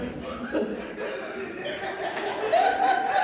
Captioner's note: laughs; laughter